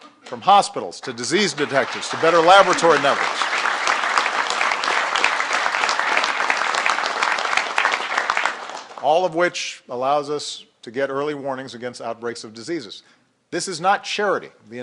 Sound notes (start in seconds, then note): 6.7 applause